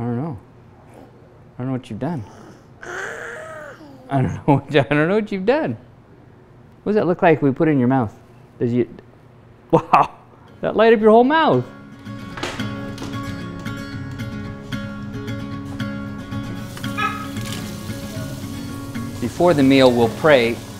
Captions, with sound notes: I don't know, I don't know what you've done. (babbling) I don't know what you've done. What does that look like when we put it in your mouth? Wow, that light up your whole mouth. (relaxing music) - Before the meal, we'll pray